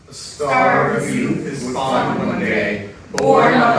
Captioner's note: in Unison